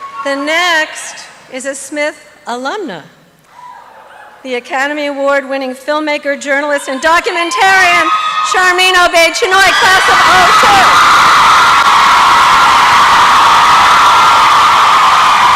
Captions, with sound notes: The next, is a Smith Alumni, the Academy Award winning filmmaker, journalist, and documentarian, Sharmeen Obaid-Chinoy class of '02! (applause and cheering)